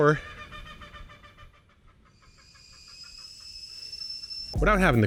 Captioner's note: chicken clucking